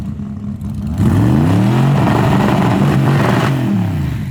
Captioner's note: engines roar